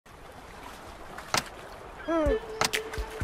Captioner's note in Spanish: Sonido de marea